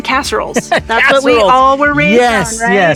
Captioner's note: laughs